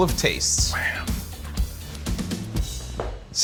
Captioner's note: whispering